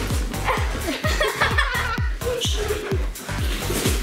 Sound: laughing

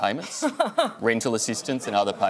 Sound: laughter

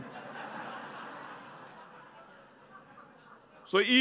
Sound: laughter

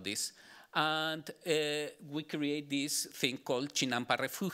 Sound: speaking Spanish

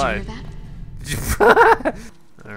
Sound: laughs

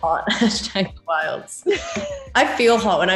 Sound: laugh

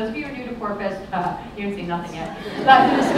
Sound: laughter

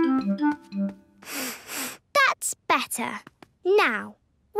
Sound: sniffs

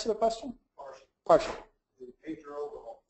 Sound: laughs

